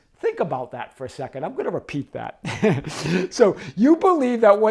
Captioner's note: chuckles